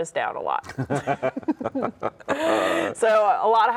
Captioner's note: both laugh